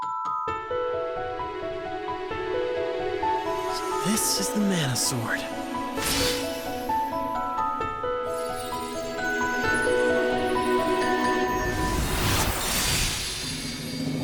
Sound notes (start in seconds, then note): 0.1 gentle music playing; 8.3 tinkling